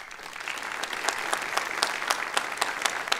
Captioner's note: applause